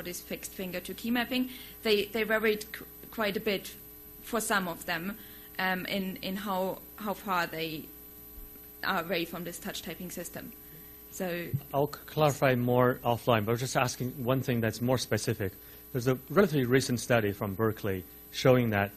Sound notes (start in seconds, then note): 12.2 voiceover